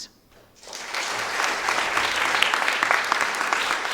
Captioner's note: audience applauding